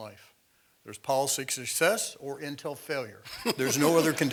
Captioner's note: laugh